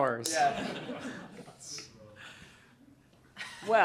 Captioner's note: laughter